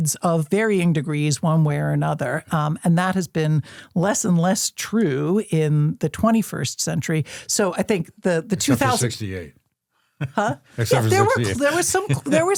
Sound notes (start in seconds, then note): 10.8 chuckles